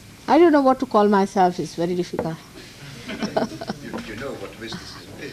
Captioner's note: laughs